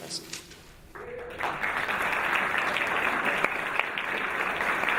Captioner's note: audience applauding